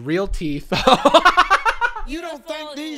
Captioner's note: laughing